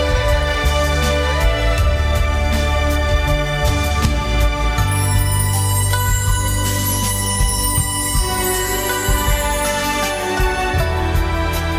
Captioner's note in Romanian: Aplauze